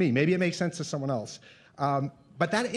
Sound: none

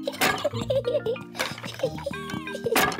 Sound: laughs

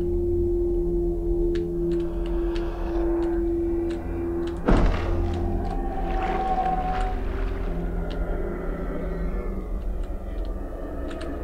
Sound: ghost wailing

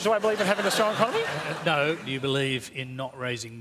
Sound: laughter

